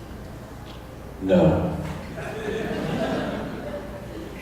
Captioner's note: laughter